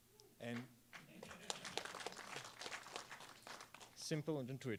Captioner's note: applause